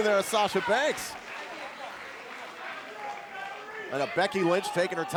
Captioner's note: crowd cheering